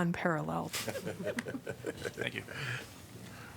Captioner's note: laughter